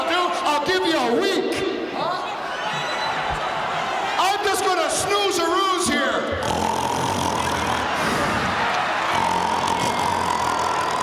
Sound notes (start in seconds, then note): 6.3 snoring; 7.4 audience cheering